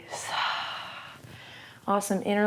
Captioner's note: exhales